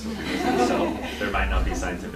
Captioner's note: laughter